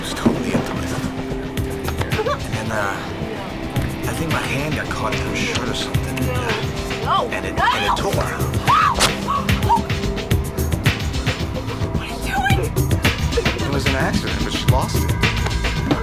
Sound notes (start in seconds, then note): 0.0 intense music; 2.6 laughing